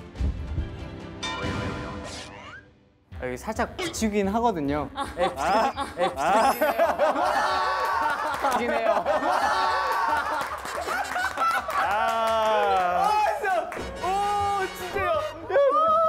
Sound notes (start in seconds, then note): 9.2 laughing; 10.8 burst out in laughter